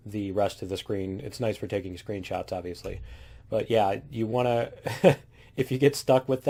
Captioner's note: laughs